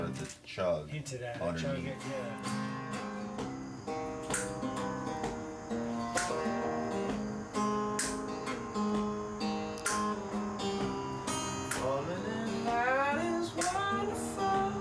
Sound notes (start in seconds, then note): 3.9 playing guitar; 4.2 snapping fingers